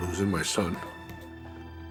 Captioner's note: sighs